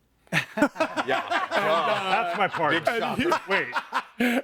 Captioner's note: everyone laughs